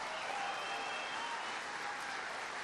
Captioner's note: applause